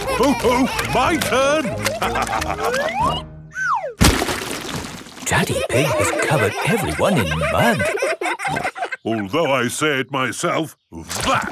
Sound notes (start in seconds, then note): 5.3 all laughing